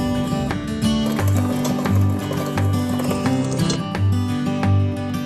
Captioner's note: food mixer tapping